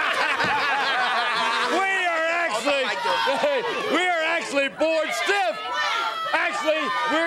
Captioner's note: laugh